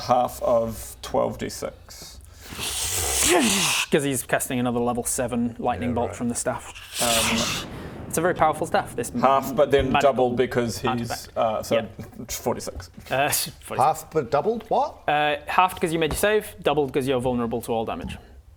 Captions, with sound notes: half of 12d6 *zzrrscshchrsssscscchhccshhhh* cos he's casting another level 7 lightning bolt from the staff *zzzrrzszrschh* It's a very powerful staff this half but then double because he's magical artefact yep so 46 half but doubled, what? Halved cos you made your save doubled cos you're vulnerable to all damage